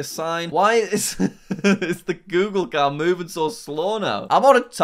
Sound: chuckles

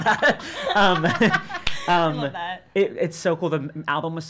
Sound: laughing

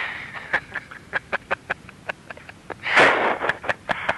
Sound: chuckling

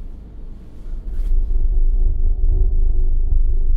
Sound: deep rumbling sound

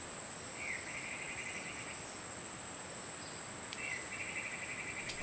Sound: birds twittering

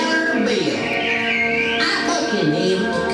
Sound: Gooney Bird tweeting

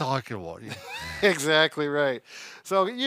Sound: laughing

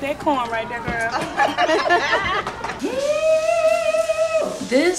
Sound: laughing

